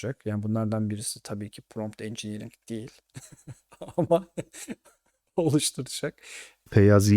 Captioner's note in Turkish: kahkaha